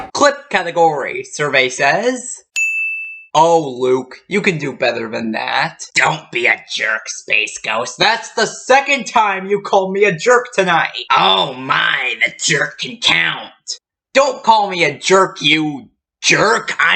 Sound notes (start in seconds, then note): 2.5 ding!